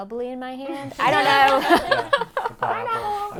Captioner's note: all laugh